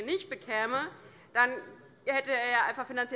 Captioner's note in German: none